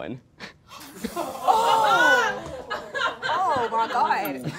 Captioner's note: all gasping